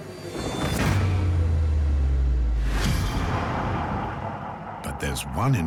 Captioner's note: eerie sounds